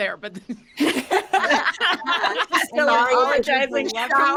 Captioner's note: all laughing